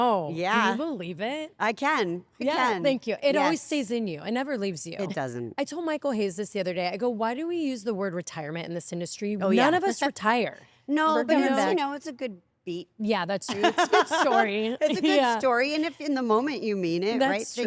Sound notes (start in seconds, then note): 13.6 laugh